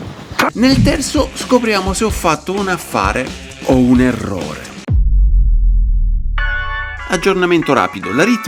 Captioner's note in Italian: campana